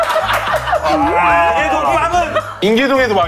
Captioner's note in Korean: 빵 터짐